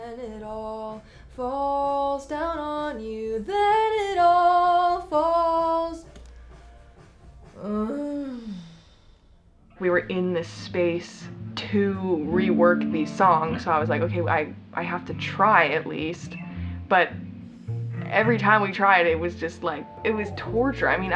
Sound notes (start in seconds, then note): 7.6 groans